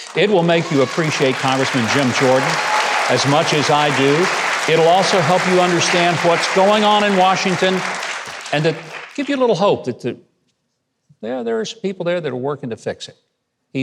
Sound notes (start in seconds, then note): 4.6 audience applause